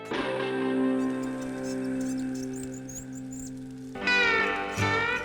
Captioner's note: bird chirps